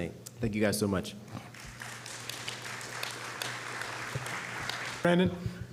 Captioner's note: applause